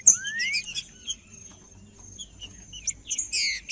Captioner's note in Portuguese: trinca ferro cantando